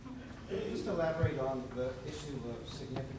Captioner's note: voiceover